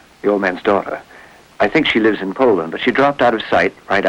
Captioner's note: none